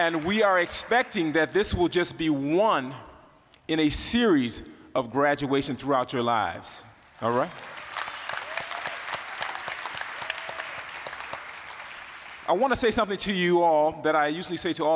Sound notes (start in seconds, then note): 8.7 applause